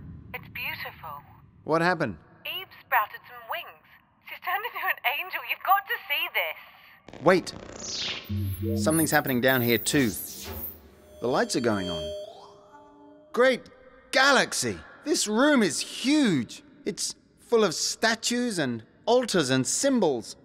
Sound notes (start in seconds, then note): 2.6 radio; 8.2 power warbles